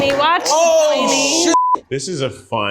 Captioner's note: beeps